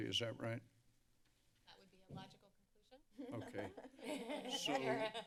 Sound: laughter

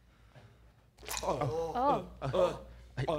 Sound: squelch

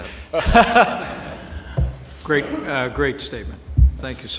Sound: laughter

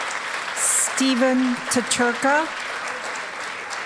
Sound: applause

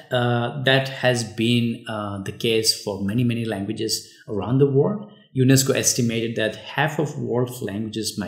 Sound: uh

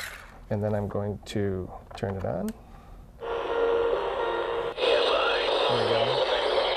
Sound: radio playing

